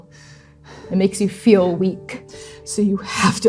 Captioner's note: stuttered breathing